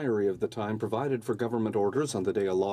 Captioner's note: speaking french